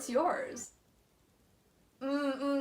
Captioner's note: the glass of wine obviously being silent